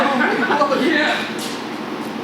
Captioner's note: laughs loudly